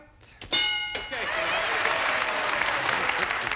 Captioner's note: audience applauding